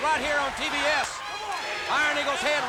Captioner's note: crowd yelling